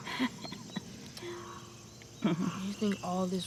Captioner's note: Ms. Odell laughing